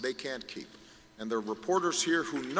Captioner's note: applause